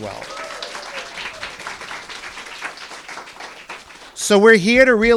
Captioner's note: applause and cheering